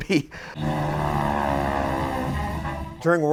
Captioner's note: sound of plane engine